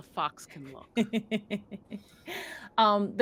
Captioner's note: game Master laughs